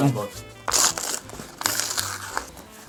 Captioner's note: rip open